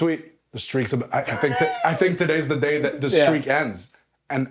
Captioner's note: laugh